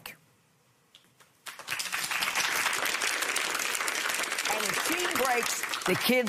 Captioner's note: applause